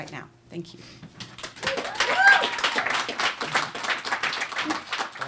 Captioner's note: applause